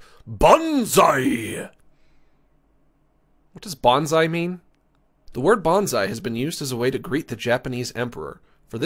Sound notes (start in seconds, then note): 3.5 normal voice